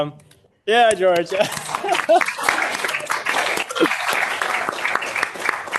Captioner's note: audience applauding